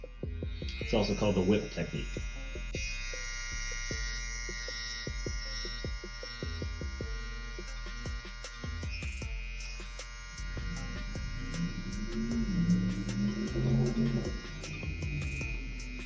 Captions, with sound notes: It's also called the whip technique. (slow groovy music) (tattoo gun buzzing)